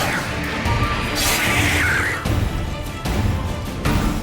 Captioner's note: screech